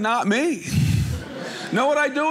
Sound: audience laughing

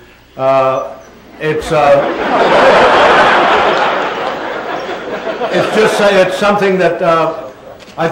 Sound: laughter

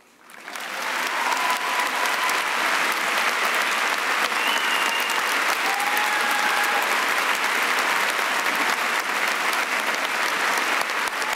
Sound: cheering and applause

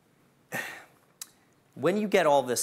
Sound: sighs

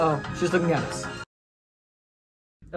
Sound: music turns off

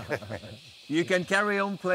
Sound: laughs

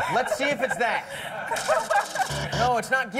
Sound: buzzer

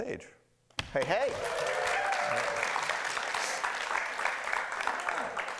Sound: cheering and clapping

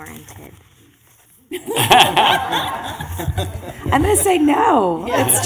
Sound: laughing

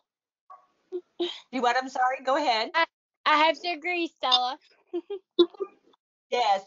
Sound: chuckles

